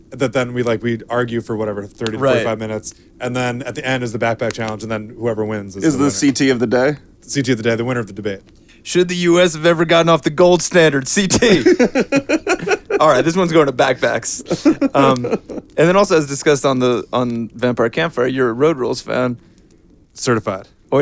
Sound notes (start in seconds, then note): 11.3 laughing; 14.8 chuckling